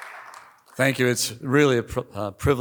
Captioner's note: applause